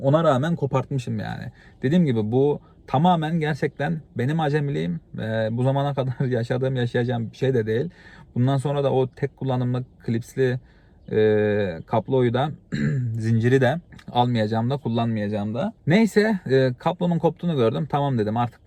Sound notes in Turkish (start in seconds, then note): 12.6 boğazını temizler